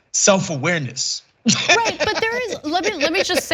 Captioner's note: laugh